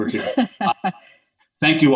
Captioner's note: laughing